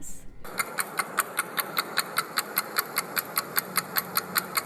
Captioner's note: clock ticking